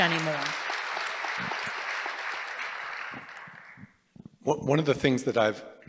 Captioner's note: applause